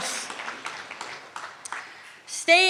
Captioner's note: clapping